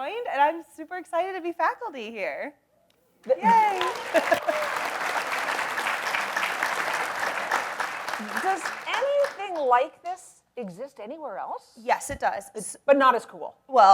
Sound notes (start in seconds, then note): 3.3 audience applauds